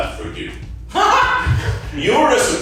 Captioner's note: audience member laughing